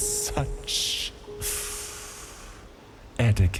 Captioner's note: slow inhale